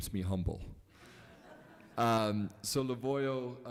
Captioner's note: laughing